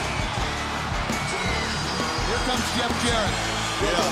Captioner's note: crowd cheering